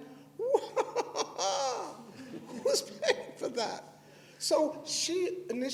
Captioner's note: laughter